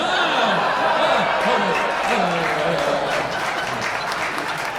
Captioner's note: audience applauding